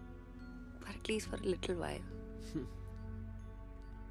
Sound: chuckles

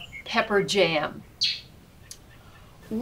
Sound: bird shriek

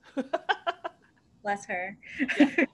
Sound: laughter

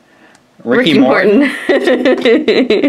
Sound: laughs

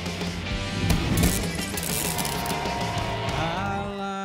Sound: electrical sizzling; crowd cheering

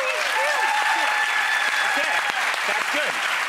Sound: audience applause

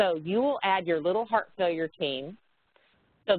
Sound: none

